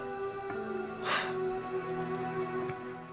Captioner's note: exhales deeply